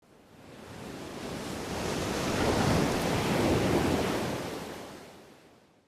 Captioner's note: waves crashing